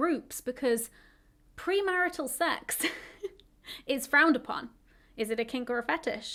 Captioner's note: chuckles